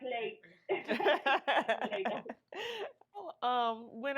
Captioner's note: laughing